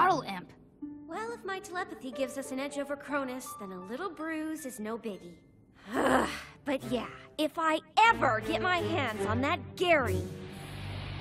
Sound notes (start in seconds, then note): none